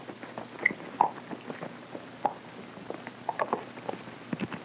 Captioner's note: hooves clopping